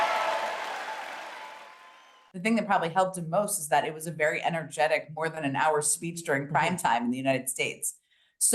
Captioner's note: applause